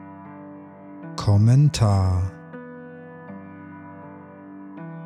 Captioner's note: german